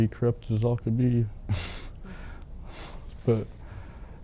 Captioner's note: laughs